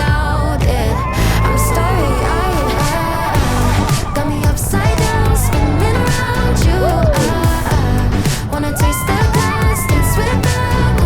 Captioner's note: roller coaster fx